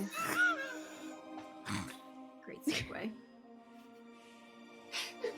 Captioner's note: actors laughing